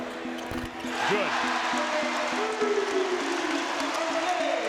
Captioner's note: crowd cheers